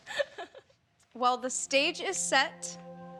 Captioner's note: giggles